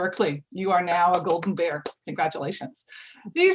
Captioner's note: hands clapping